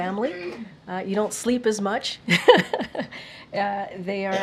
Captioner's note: laughs